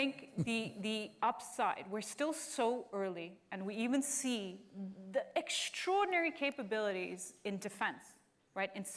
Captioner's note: laughter